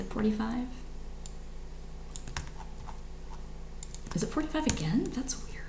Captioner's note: computer mouse clicks